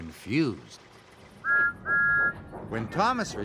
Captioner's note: toot toot